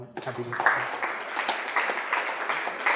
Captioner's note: applause